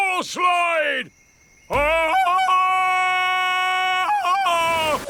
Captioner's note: ululating